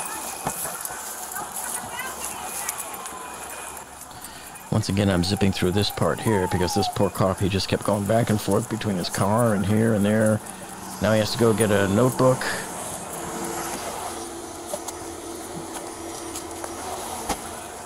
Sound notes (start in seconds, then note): 1.5 hollering; 1.5 sirens wailing